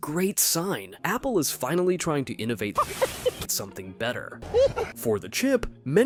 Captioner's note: laugh